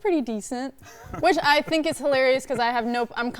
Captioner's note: laughing